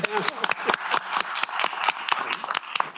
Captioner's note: applause